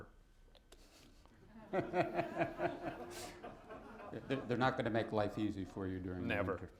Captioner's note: laughter